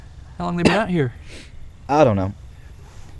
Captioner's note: coughing